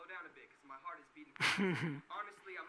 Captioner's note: Gary laughing